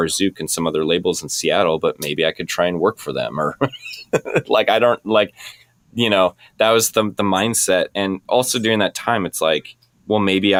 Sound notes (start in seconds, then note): 3.6 laughing